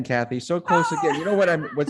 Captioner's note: groaning